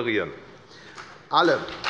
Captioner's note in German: Beifall bei der FDP